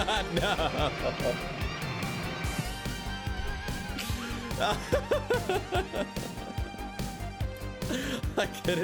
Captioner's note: laugh